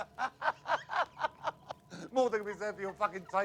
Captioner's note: laughter